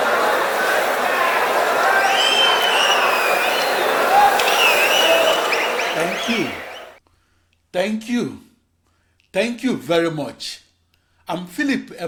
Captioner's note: wild applause and cheering for 22 seconds